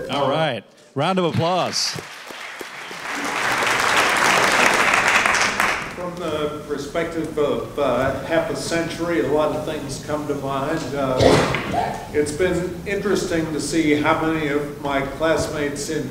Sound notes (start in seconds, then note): 1.1 audience applauding